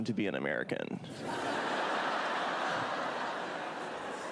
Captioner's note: crowd laughs